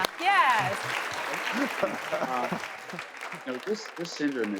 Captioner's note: audience clapping